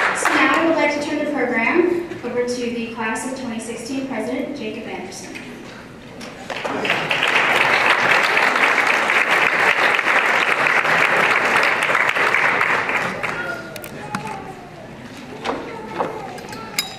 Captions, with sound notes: So, now we would like to turn the program over to the class of 2016 president, Jacob Anderson. [applause]